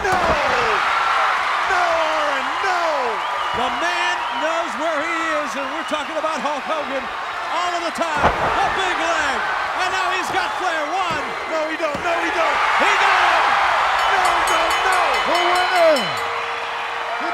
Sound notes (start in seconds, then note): 13.2 bell rings